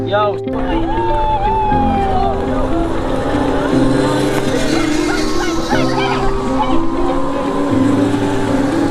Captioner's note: cheers